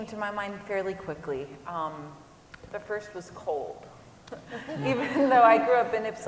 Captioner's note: laughter